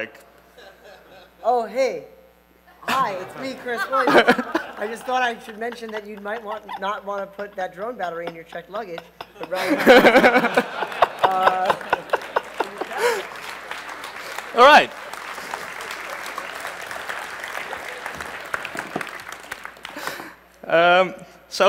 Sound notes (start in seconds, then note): 13.9 applause